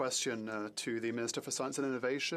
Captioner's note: speaking French